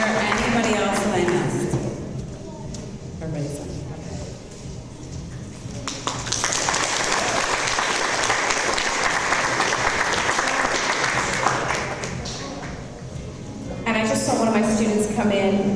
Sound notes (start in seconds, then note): 5.8 audience applause